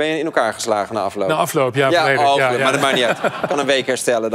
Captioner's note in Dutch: gelach